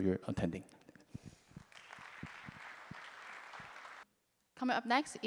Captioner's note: applause